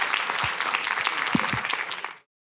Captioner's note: applause